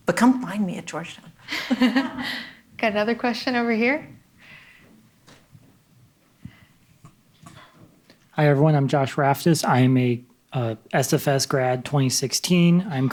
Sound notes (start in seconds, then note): 1.5 audience laughing